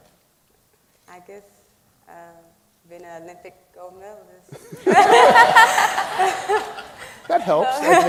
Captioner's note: laughing